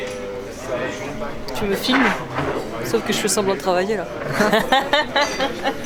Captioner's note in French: rires